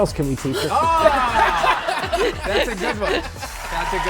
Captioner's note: audience laughing; giggling